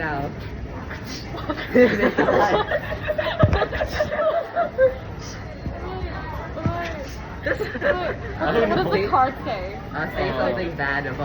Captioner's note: laughs